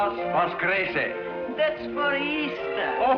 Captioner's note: speaking foreign language